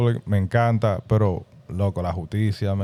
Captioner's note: speaking In Foreign Language